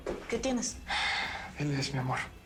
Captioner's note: Suspiros